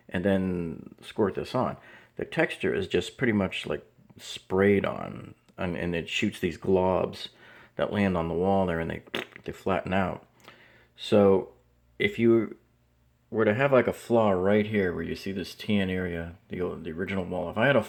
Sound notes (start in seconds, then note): 9.1 splatting noise